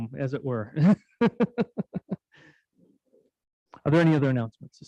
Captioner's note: laughing